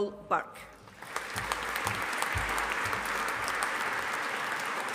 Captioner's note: audience applauding